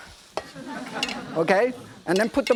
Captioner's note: audience giggling